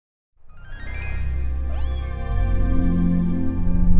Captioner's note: cat meowing